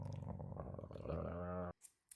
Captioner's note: groaning